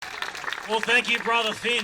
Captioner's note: applause